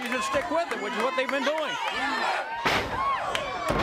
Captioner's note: crowd cheering